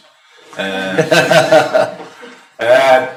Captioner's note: all laugh